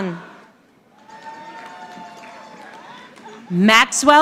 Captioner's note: audience applauding